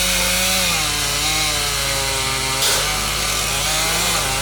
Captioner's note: chainsaw humming